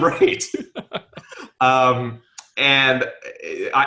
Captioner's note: laughing